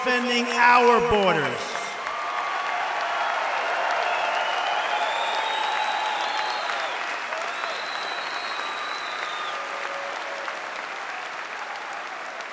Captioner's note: applause